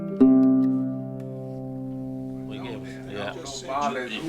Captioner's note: office workers conversing